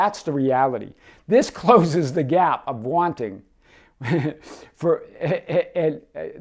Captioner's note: laughs